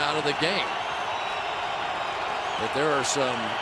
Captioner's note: cheering